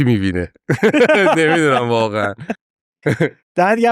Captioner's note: laughs